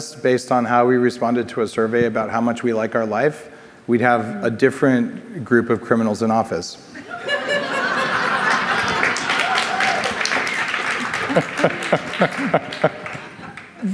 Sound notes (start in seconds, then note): 7.0 audience laughs; 7.4 audience applauding; 11.1 laughs